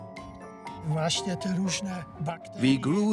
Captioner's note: speaks Polish